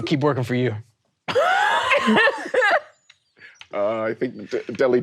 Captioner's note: laughing